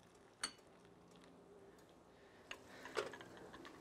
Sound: glass clinks

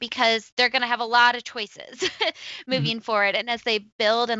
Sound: laughs

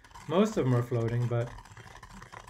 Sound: spoon scraping

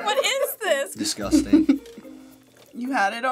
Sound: laughing; giggles

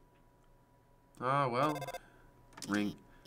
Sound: phone ringing

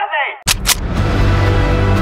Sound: guns

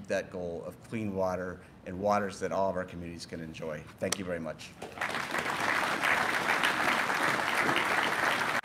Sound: applause

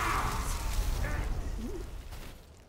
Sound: wind whistling

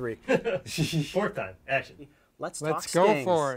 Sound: chuckling

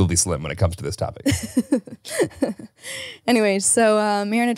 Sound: laughs

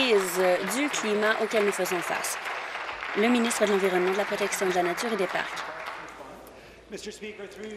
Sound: applause

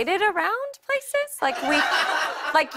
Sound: laughter

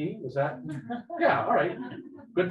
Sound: people laughing

